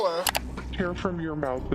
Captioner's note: clicking sound